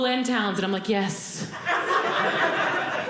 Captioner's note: audience laughing